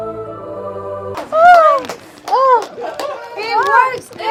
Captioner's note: clapping